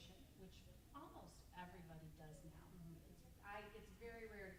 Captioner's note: stammers